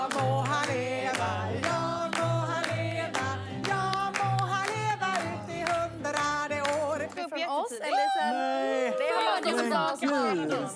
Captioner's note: Applåder; Applåder